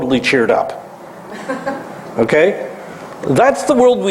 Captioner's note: laugh